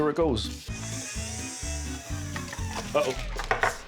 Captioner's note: whirring sound starts, stops abruptly